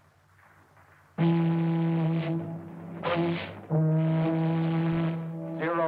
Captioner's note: foghorn blaring